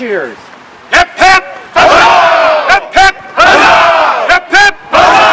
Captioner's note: crowd